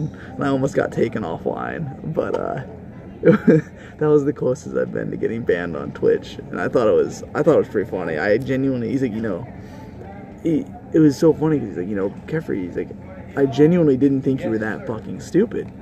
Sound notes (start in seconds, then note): 3.2 laughs